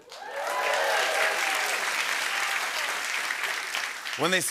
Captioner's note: cheers and applause